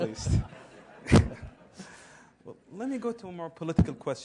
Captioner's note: laugh